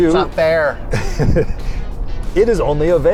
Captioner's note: laughs